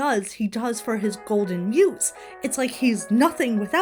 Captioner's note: ringtone plays